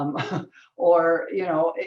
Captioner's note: chuckles